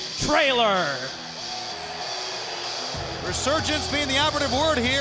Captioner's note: crowd chatter